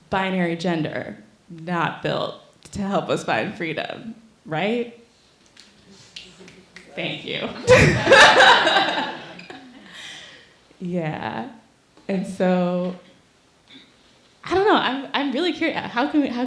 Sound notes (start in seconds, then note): 5.4 snapping; 7.5 laughing